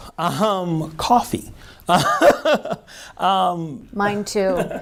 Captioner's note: laughs